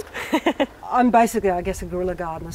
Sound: laughs

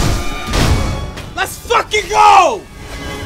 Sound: deathblow rings

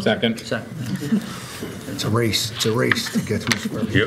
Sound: laughter

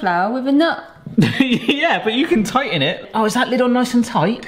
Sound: laughs

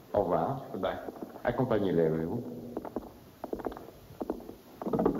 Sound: French spoken audio

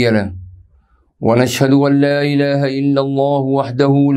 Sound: arabic

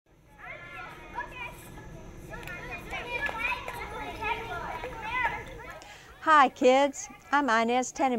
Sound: sounds of children playing

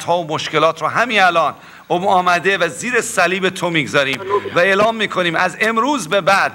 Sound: speaking in foreign language

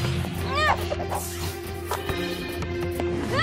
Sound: grunting

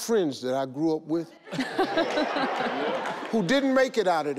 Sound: all laugh

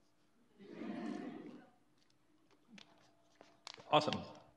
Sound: audience laughs

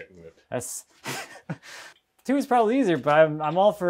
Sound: laughs

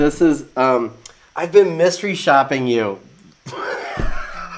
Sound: laughs

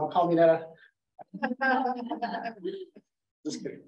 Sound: laughing

